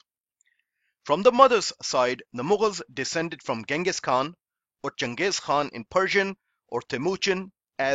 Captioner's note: in Persian